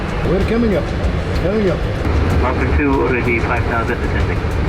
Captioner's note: pilots talking over radio